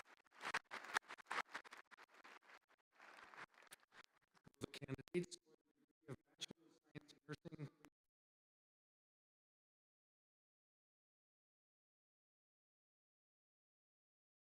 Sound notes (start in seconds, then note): 10.3 audio cuts out